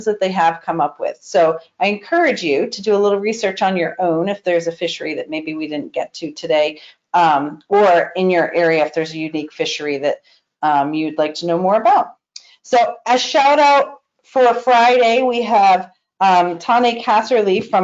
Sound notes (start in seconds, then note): none